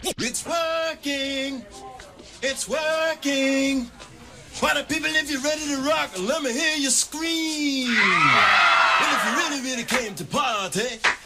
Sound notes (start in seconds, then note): 7.8 crowd screams